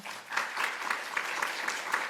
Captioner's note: applause